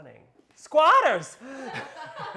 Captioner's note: gasps; all laughing